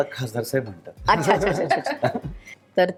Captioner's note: chuckles